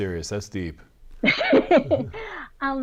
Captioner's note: laughs